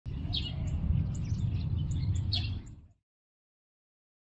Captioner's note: nature sounds